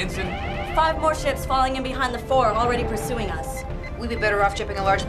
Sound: alarm

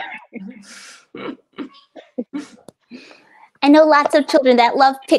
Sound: laughing

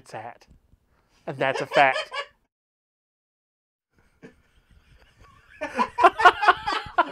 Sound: both laughing

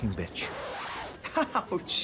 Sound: record scratching

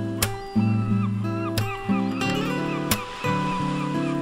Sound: bird singing

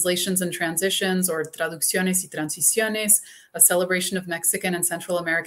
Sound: speaking spanish

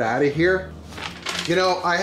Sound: paper flaps

